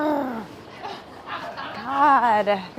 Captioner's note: all laughing